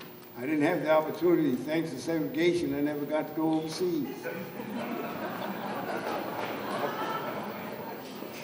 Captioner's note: laughter